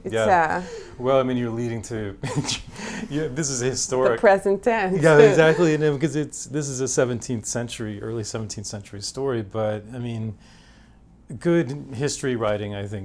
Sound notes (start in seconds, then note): 5.0 laughs